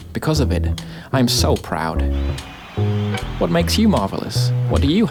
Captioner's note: people cheering